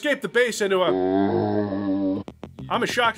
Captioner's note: zombie sound